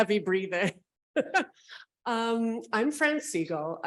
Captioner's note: laughing